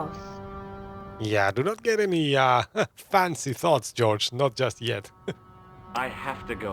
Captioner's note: laughs